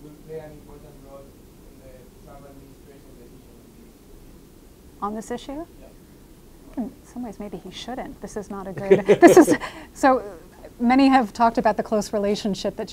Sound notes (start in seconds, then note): 8.6 laughing